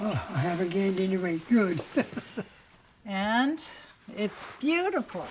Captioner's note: laughter